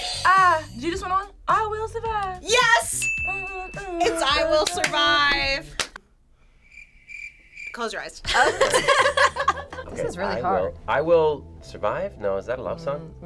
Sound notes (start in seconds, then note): 2.9 audio dings; 6.4 crickets chirping; 8.2 group laughing